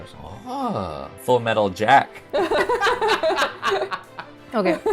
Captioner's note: everyone laughs